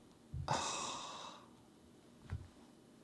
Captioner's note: sigh